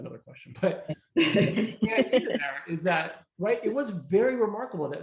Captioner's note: all laughing